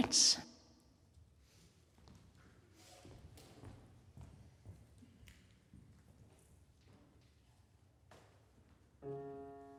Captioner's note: silence